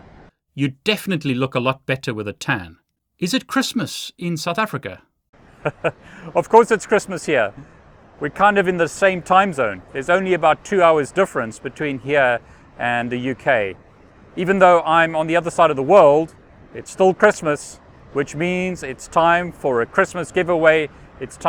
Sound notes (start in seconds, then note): 5.6 laughing